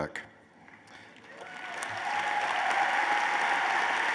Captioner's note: applause